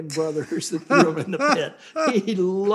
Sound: laughs

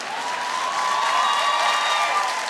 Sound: cheering, applause

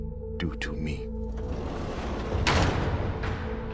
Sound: cage door slams shut

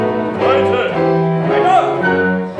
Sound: Spanish

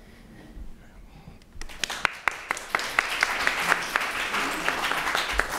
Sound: applause

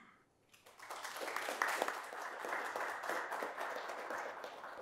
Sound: audience applauding

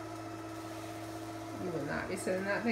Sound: motor continues

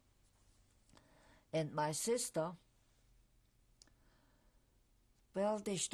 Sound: pauses for 3 seconds

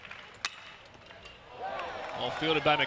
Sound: ball hitting bat

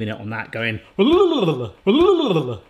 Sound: burbles

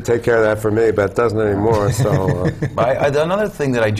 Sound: laughter

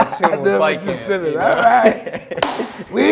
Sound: both laughing

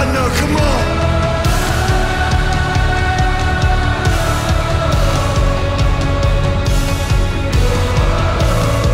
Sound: crowd

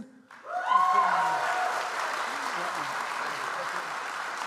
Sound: audience applauds

